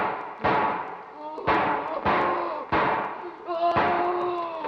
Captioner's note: Danny crying